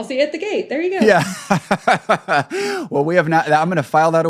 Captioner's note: laughing